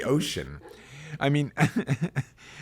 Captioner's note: laughs